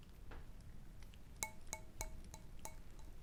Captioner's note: glass tapping